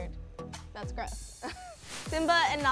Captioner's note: laughs